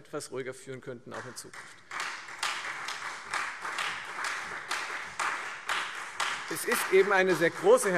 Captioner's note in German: Beifall Freie Demokraten